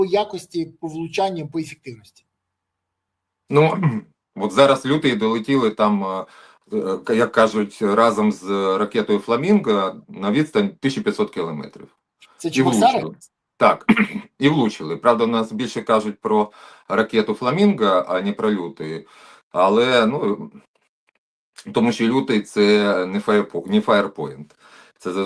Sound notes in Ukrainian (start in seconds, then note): 13.8 прочищення горла